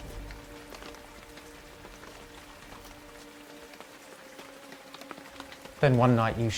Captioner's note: rain pattering; soft tense music